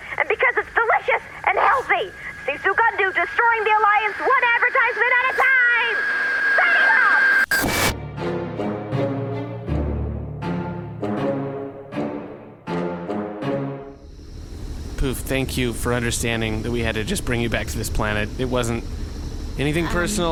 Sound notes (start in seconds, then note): 10.7 static blips out; 14.9 transition music